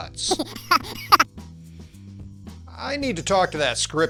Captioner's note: child giggles